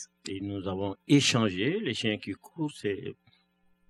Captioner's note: speaking french